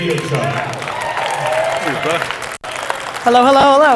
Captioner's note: audience applauds